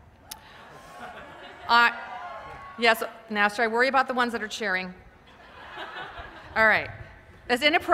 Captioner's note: laughter